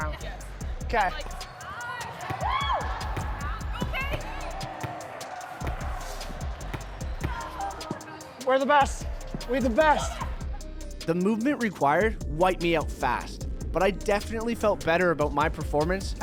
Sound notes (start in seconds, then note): 2.0 cheering; 3.4 sounds of hitting the ball